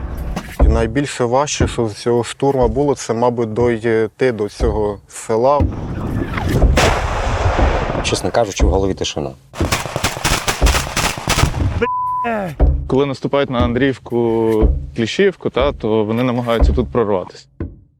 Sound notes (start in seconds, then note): 6.7 sound of gunshot; 9.5 sound of gunshots